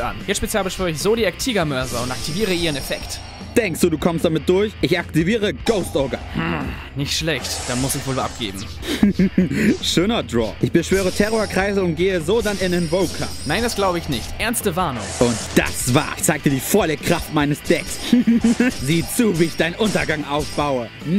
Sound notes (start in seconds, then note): 8.8 maniacal laugh